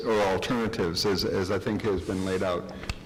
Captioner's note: none